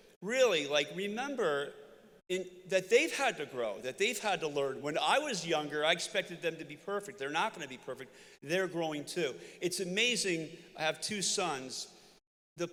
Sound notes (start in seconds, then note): none